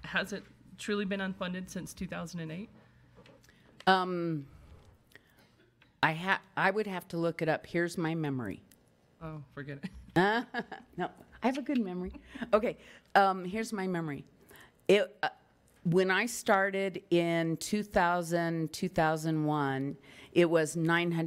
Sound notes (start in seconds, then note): 10.4 laughs